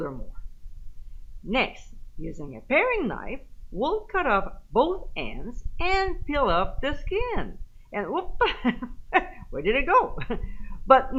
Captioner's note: giggle